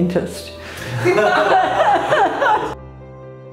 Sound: all laugh; gentle music

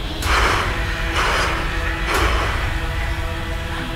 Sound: heavy breathing

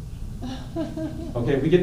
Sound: laughter

